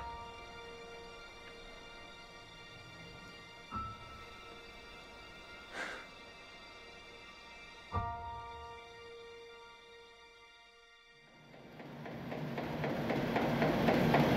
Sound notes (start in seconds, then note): 11.5 newspaper machines rolling